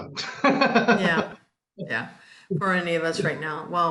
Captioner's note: laughs